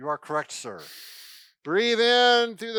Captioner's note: inhaling